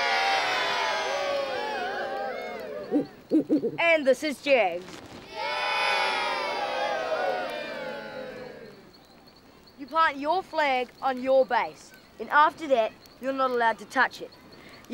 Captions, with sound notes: (crowd cheering) (owl hooting) And this is Jag's. (crowd cheering and booing) You plant your flag on your base, and after that you're not allowed to touch it.